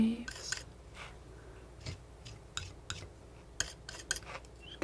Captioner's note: scratching